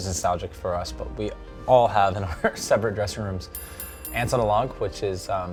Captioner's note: laughing